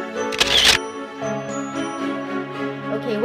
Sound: camera clicks

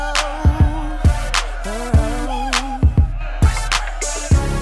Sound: crowd screams

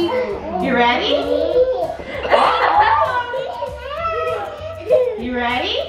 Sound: everyone laughs

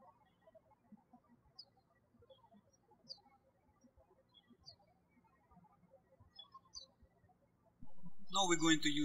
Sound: birds chirping

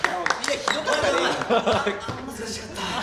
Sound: laughs

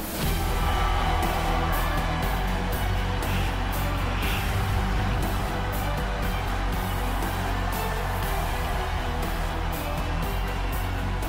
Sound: cheering

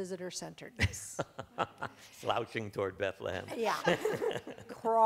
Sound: laughs

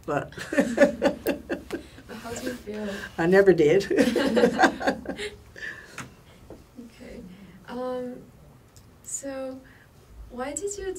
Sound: laughs; laughs

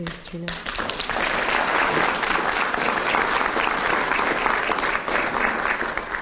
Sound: applause

